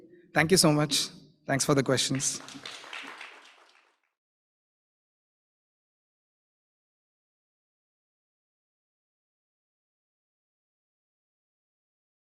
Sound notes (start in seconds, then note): 1.9 applause